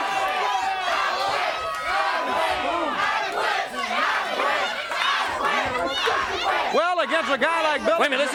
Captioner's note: crowd cheering